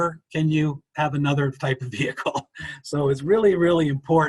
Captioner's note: chuckles